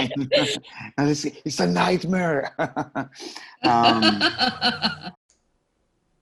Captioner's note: laughs